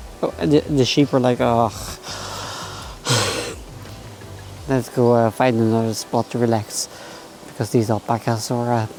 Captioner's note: sigh